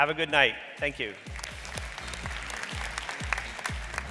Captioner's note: audience clapping; upbeat music